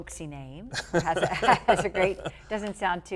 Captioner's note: laughter